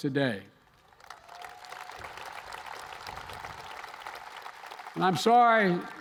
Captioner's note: applause